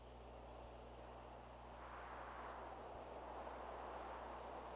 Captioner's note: wind whistling